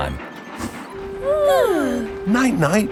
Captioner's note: both yawning